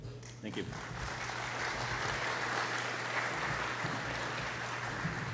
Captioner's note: applause